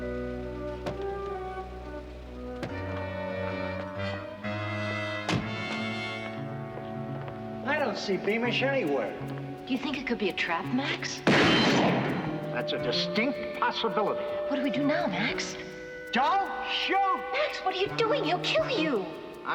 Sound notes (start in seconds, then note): 11.2 gun bangs